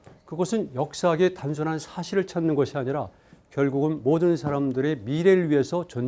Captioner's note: speaking in Korean